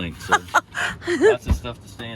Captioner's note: laughing